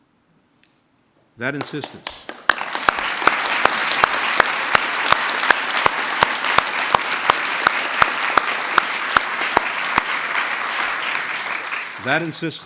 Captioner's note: applause